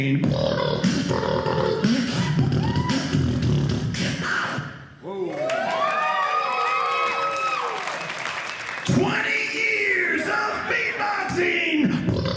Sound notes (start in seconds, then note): 0.0 beat boxing; 5.2 audience cheering; 11.3 beat boxing